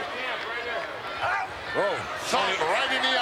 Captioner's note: Brunzell shouts